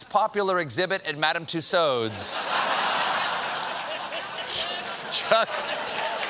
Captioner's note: laughter